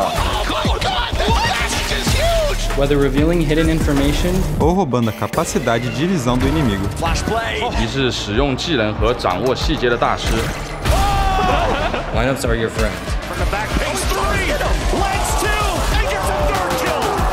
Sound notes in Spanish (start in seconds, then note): 11.4 risas